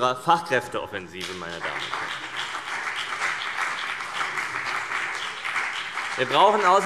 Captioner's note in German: Beifall CDU und BÜNDNIS 90/DIE GRÜNEN